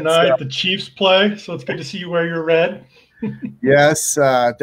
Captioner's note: laughing